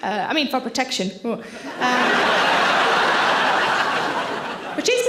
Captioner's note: audience laughing